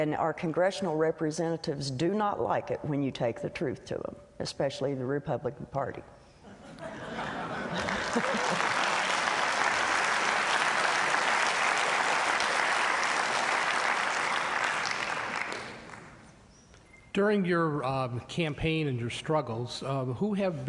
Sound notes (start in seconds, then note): 6.4 laughter; 9.5 applause